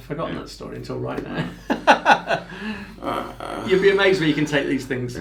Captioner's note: laughs